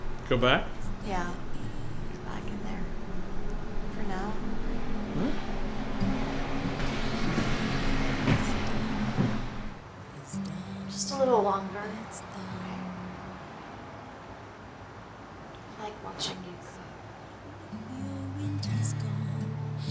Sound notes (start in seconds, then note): none